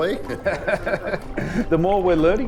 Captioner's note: laughter